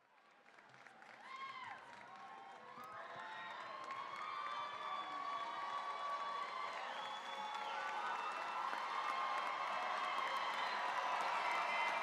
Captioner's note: cheering, applause